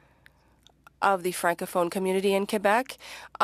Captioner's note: speaking French